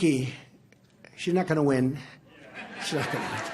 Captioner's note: laughter